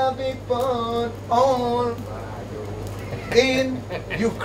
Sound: laughter

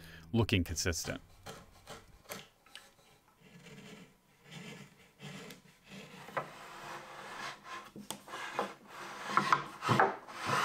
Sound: wood sliding

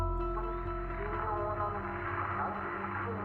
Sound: japanese dialogue

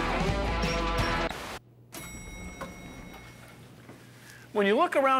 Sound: elevator bell dings

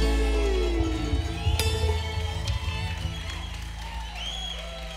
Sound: audience applauding

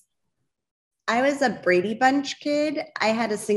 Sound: none

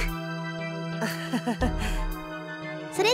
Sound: awkward laugh

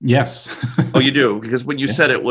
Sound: chuckles

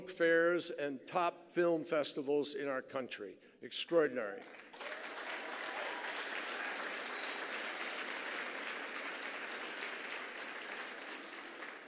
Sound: applause

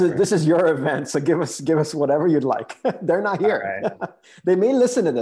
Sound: chuckles

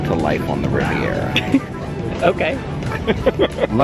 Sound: laughs

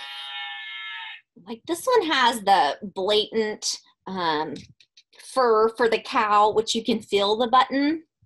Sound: moo sound from the book

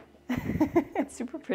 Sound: chuckles

